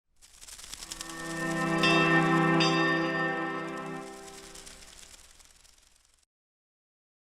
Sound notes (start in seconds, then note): 0.1 wings flutter; 1.1 bell rings